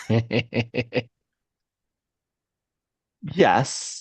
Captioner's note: laughter